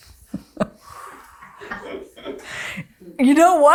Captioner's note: laughs